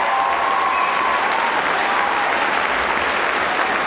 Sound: cheering

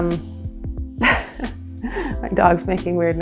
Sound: laughing

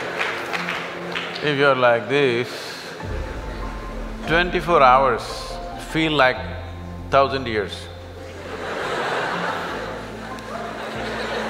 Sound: laughter & Applauds

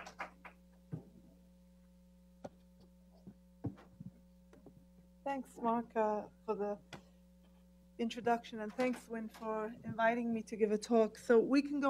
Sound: applause

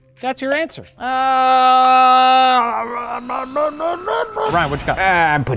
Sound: grumbling

